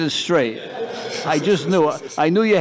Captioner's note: laughter